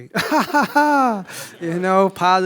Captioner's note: laughs